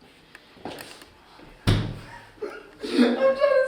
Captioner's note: laughs